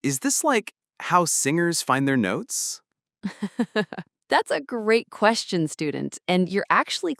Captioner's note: chuckles